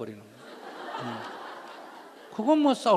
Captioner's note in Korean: 청중웃음